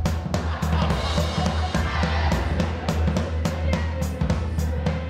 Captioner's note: actors laughing; upbeat music continues